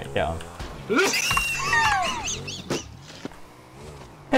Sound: amused wheezing

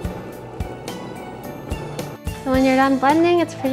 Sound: blender runs

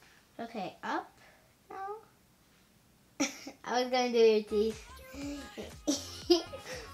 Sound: laughs

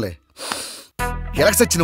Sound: sniffs

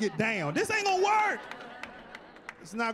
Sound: laughing; clapping

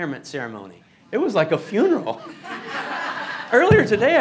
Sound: laughing

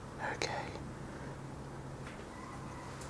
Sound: whispers

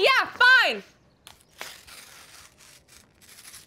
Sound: paper rips

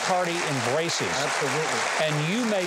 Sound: audience applauds

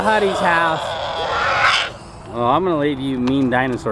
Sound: children roaring

